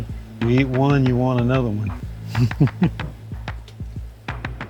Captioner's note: laughs